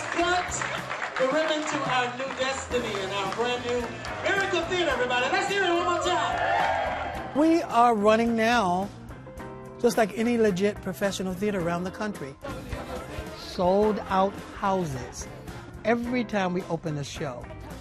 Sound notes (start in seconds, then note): 8.1 cheering